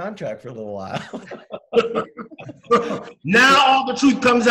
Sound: laughing

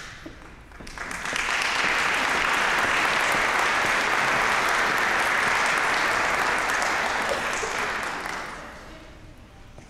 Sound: applause

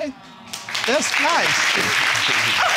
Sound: crowd clapping

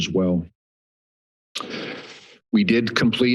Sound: pause

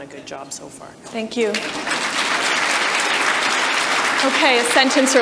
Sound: audience applause

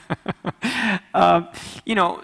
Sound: laughs

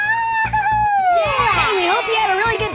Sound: children cheering

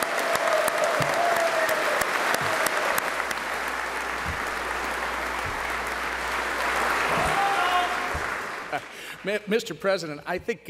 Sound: applause

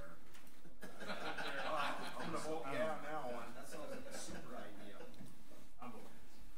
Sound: overlapping chattering; group laughs

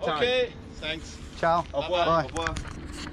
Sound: speaking in a foreign language

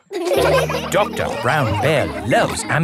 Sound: all laughing

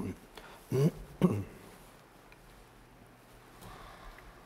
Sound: clearing throat

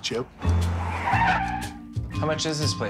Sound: tires screeching

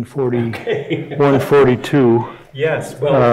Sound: chuckling

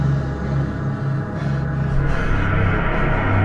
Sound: panting Heavily

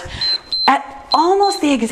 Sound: timer beeps

